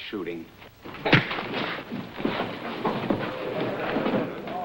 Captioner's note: punch landing